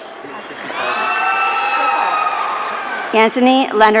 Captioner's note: audience cheering